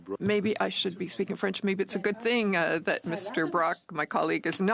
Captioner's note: speaking French